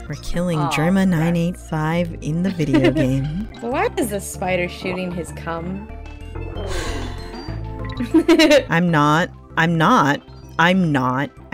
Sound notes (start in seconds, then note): 6.6 sigh